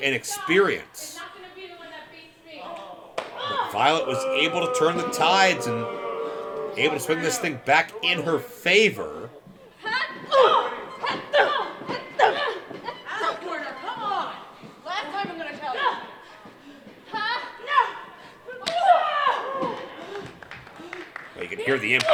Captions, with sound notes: But Violet was able to turn the tides able to spin this thing back in her favor. (wrestlers groaning) You can hear the impact of the chops by Veda Scott.